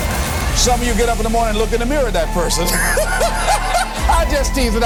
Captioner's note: chuckle